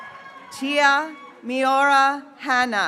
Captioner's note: graduates cheering